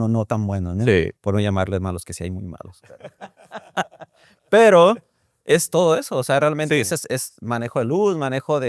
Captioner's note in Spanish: risas